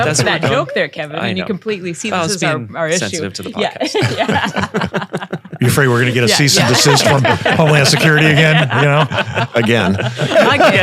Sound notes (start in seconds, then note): 4.7 panel laughing